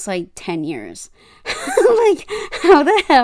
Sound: laughs

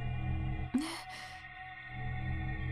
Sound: gasp

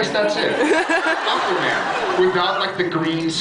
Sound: laughs

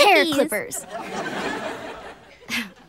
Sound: laughing

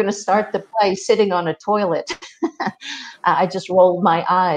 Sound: laughs

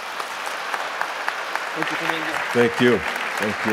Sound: audience applauding

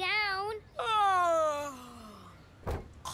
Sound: fake yawning

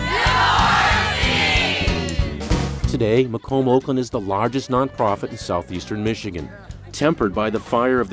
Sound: shouting

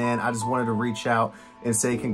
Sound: none

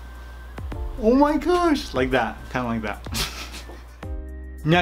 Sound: giggles

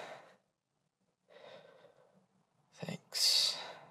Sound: breath

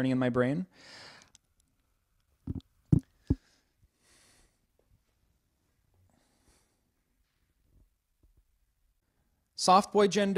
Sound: sounds of eating the microphone

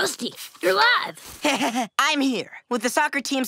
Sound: nervous chuckle

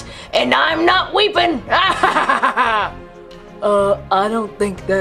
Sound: laughs

